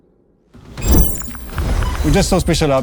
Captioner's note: electronic buzzing